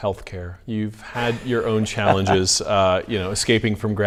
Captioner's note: laughs